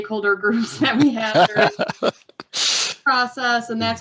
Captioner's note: laughs